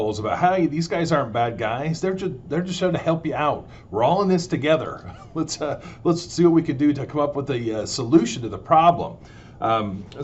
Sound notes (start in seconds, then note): 5.0 laughs